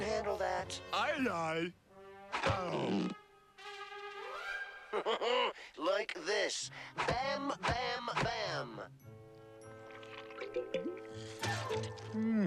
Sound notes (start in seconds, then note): 4.9 chuckles